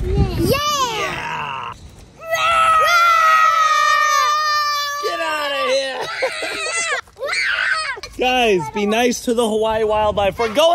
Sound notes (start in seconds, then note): 2.2 children roar; 6.4 children yelling